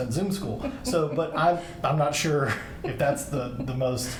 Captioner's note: laughs